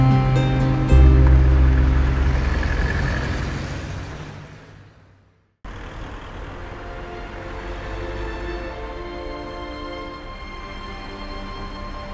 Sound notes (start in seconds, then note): 0.6 car engine distantly humming; 6.4 gentle orchestral music